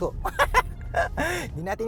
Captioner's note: laughs